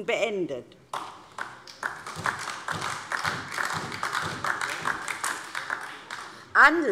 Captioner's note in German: Beifall DIE LINKE und vereinzelt SPD